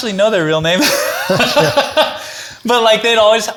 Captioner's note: chuckles